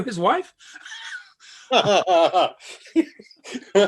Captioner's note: laughing